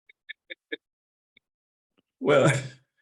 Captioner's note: laughs